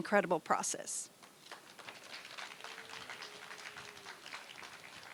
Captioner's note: applause